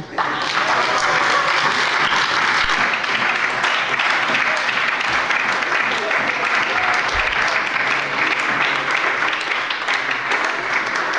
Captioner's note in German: Lebhafter Beifall bei der SPD und der LINKEN